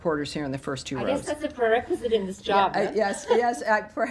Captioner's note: laughter